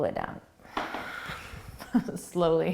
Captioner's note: laughing